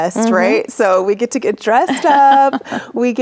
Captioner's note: laughing